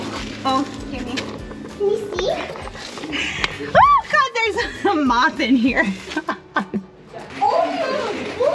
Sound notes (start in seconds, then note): 5.7 laughs